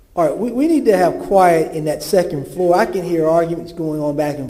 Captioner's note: off microphone